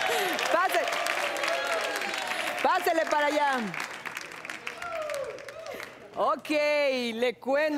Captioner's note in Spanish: Aplausos